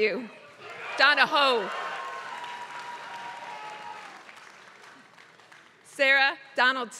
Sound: applause

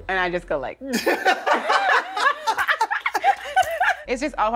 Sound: laughter

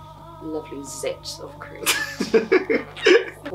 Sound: laughs

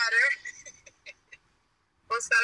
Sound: laughs

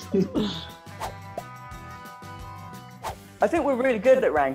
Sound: laughing; swooshing

